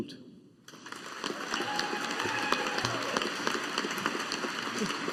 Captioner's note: audience applauding